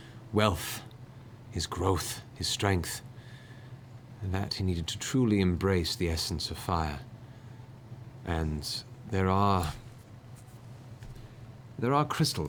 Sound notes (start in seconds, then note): none